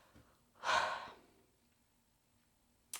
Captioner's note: sighs loudly